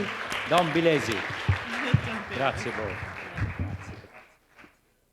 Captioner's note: applause